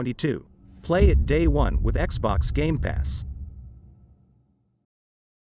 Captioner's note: dramatic sound